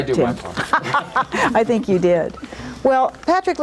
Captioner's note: laughs